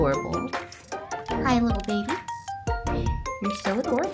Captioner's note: high-pitched voice